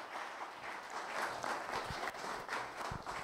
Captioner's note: applause